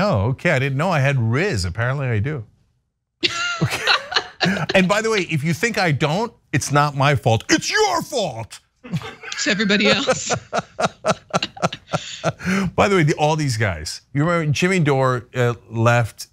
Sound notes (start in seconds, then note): 3.3 laugh; 8.8 laugh